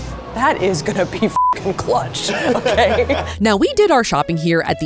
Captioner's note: beep